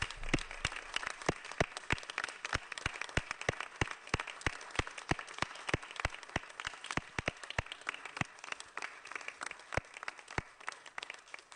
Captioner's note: applause